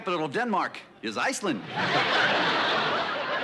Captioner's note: laughter